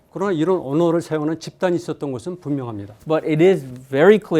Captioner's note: speaking in Korean